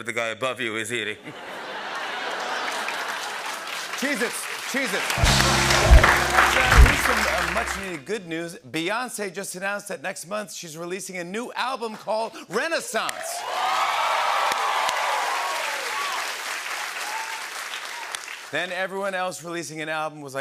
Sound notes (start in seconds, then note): 1.1 laughter; 13.0 cheers and applause